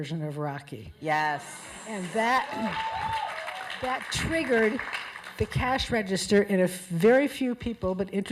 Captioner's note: sounds of agreement